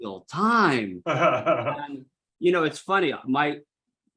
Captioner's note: laughs